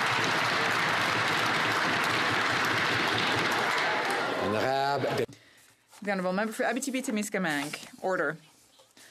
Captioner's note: some Applause